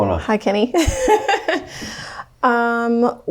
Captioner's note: laughs